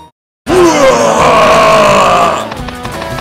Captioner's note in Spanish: rugido